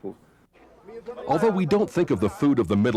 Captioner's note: foreign language spoken